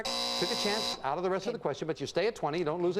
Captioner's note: buzzer sounds